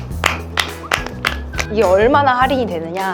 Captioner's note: clapping